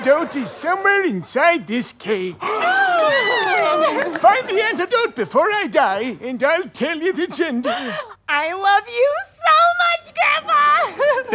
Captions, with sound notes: And the antidote is somewhere inside this cake. [gasping and cheering] - Find the antidote before I die and I'll tell you the gender. - I love you SO MUCH Grandpa!!